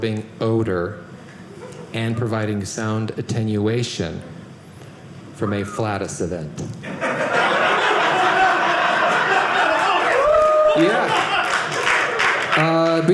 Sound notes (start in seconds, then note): 6.8 audience laughing